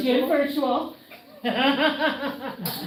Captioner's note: laughter